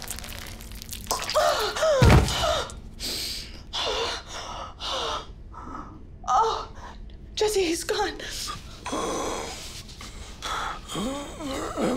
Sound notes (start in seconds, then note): 3.0 breathes heavily; 8.9 groans